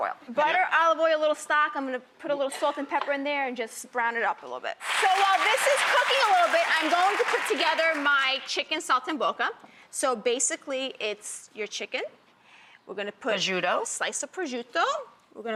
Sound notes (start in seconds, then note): 4.8 applause